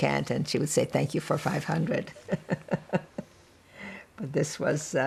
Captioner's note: laughing